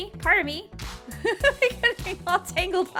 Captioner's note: laughing